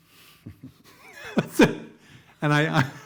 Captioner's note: laughing